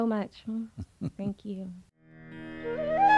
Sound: Sadhguru laughs

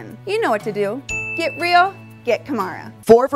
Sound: diamond dings

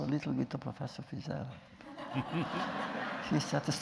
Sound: laughter

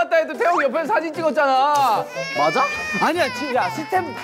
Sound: cries

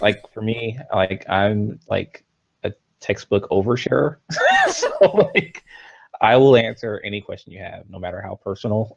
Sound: both laughs

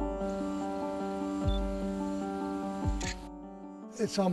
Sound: camera beeping; shutter click

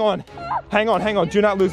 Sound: screams

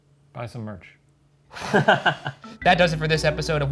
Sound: laughter

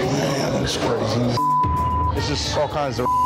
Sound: beep

